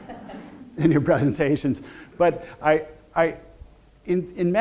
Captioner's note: audience laughter